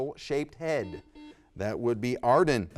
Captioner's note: buzzer beeps